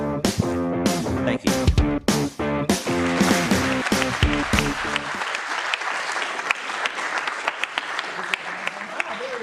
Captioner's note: applause